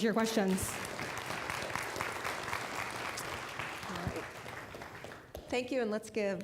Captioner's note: applause